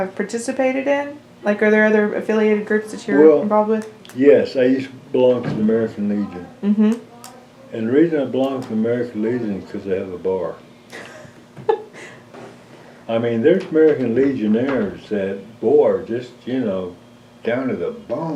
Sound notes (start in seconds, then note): 10.9 laughter